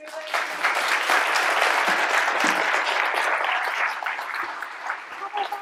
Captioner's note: applause